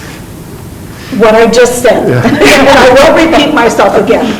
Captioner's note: group laughing